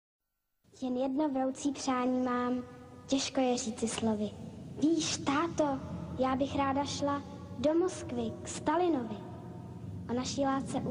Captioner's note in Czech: pískání monoskopu